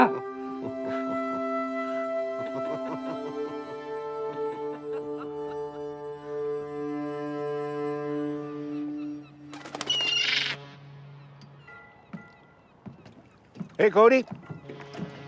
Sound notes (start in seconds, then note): 0.0 Cody chuckling; 0.0 Martha laughing; 0.3 soft music; 2.2 laughter; 7.9 birds cawing; 8.5 squawking